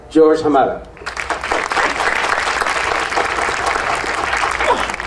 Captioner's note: audience applauding